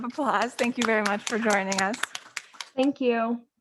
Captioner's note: board members applauding